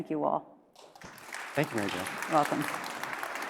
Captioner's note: audience applauds